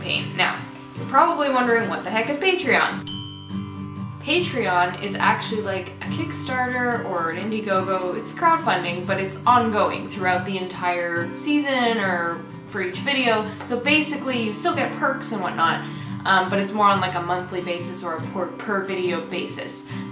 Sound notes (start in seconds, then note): 3.0 ding